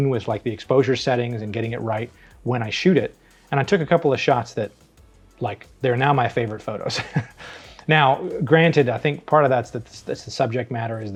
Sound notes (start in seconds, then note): 6.9 laughs